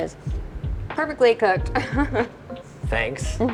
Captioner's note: laughs softly